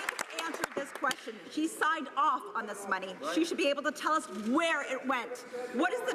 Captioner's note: some Applause